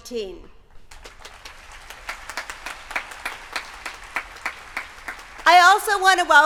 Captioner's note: applause